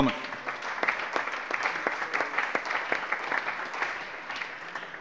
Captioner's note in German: Allgemeiner Beifall